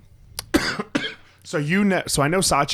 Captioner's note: coughs